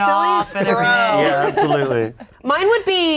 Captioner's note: group laughing